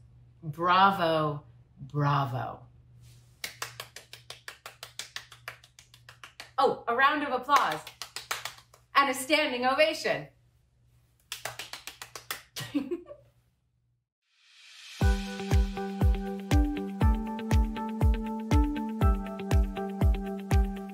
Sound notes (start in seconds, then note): 3.4 applause; 11.3 applause